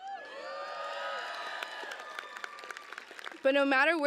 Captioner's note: cheers